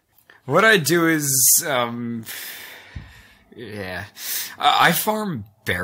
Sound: sighs

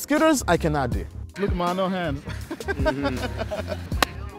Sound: laughs

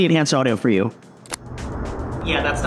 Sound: loud noise coming from wind

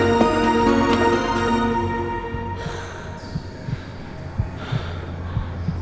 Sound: music intensifies; heartbeat, whispering, breathing

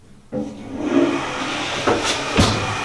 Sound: toilet flushes

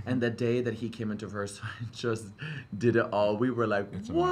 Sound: laughs

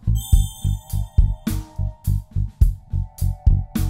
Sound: rhythmic music; phone beeping

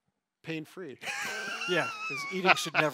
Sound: laughs

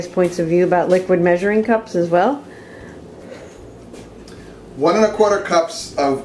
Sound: laughs

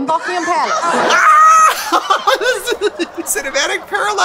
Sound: laughter

